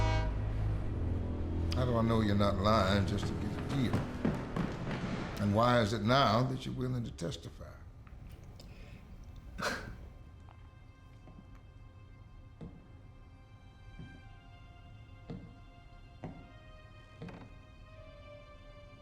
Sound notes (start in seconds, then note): 0.0 train horn; 8.0 scoffs; 11.9 slow footsteps approach door